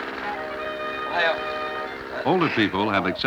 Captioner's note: Japanese speaking